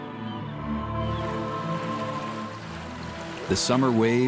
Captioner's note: water rushing